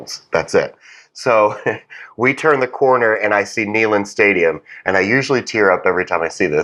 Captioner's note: laugh